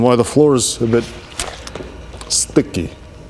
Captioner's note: unfortunate squishing sounds